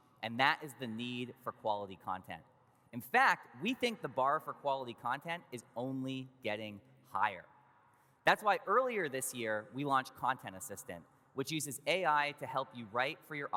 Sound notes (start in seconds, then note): none